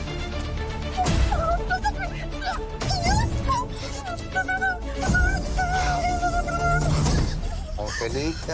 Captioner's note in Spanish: Ángela solloza y exclama